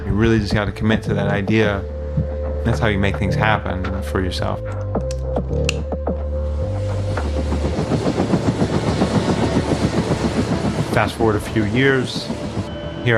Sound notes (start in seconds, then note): 8.1 helicopter blades whirring